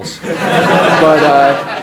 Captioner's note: audience laughs